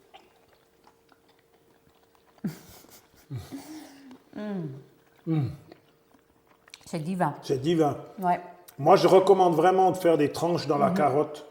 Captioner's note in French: rires